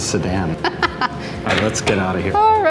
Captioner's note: laughs